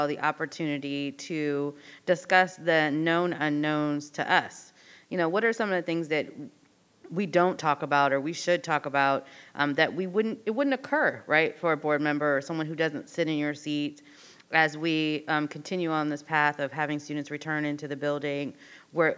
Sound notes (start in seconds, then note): none